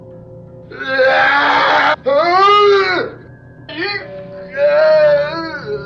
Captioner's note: screaming